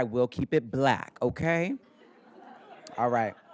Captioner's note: everybody laughing